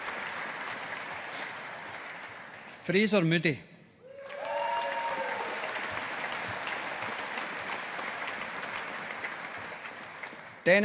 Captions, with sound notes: Fraser Moodie. (AUDIENCE APPLAUDING)